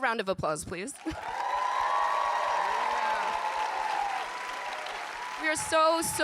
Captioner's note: audience applauding and cheering